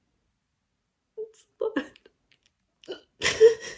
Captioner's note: cries softly; sniffles, cries through words